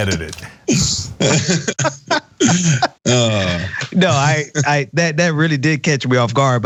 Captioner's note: laugh